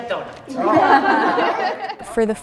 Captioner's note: group laughs